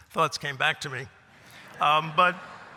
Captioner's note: laughter